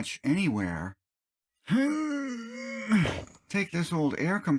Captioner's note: hnnnnnng